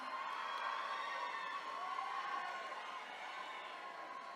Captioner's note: attendees cheering